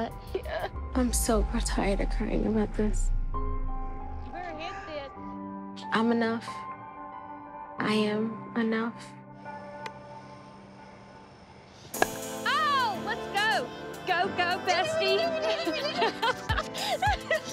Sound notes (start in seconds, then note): 11.9 ball cracks; 16.4 laughs